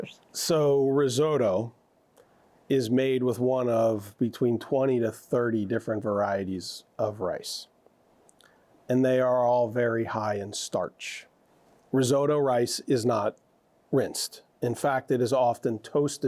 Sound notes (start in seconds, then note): none